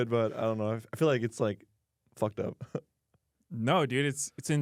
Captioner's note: laughs; laughs